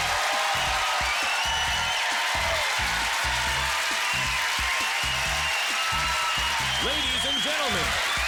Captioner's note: cheers and applause